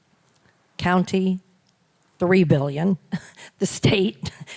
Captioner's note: chuckles